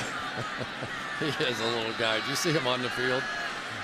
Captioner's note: laughs